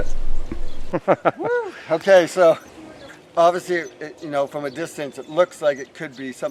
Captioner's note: laughing